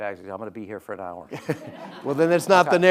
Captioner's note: audience laughing